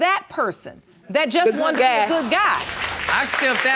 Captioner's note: applauding